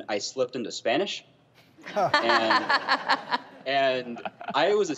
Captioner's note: laughing